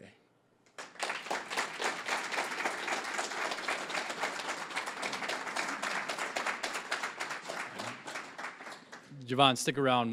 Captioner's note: applause